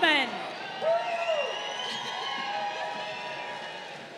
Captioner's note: crowd cheering